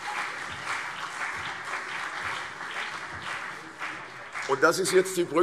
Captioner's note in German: Beifall CDU und BÜNDNIS 90/DIE GRÜNEN